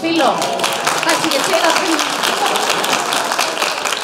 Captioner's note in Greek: χειροκροτημα